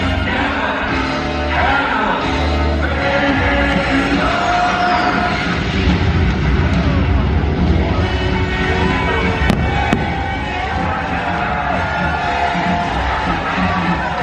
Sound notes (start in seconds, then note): 7.5 crowd cheering; 7.8 upbeat music continues